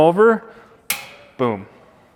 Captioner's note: stove knob clicks